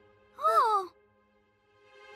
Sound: both gasp

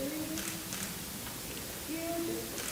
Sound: camera clicks

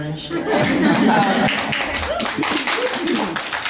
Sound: laughing and clapping

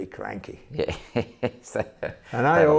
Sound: chuckles

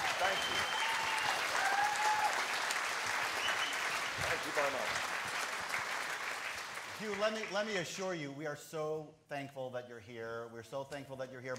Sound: applause

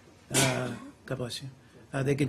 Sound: sneezing

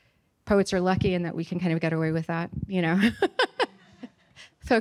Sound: chuckles

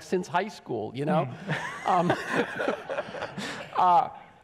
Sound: audience laughs

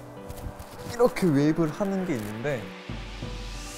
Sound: wave

